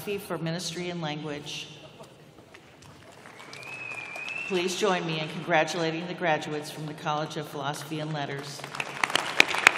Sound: applause

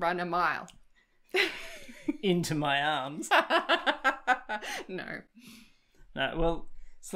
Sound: laughs

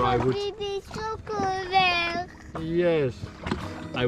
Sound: foreign language

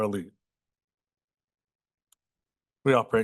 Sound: pause

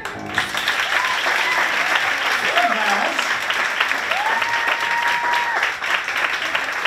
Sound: applause and cheering

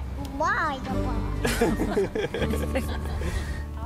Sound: laughter

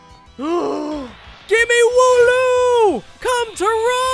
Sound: gasps

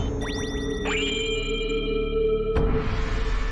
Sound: shiny Sound

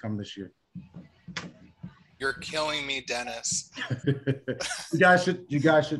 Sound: laughter

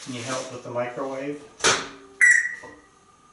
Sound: Einstein makes microwave beep sound

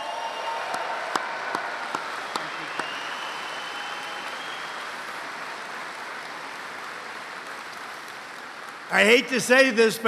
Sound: applause

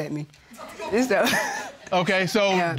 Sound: chuckles

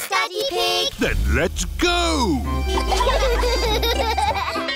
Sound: giggling

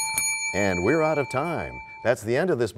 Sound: bell rings, time expires

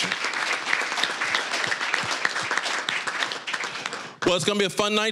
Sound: applause

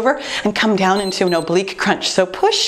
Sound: timer beeps

